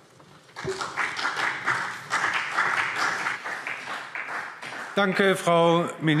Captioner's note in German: Beifall CDU und BÜNDNIS 90/DIE GRÜNEN